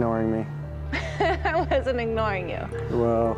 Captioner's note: laughs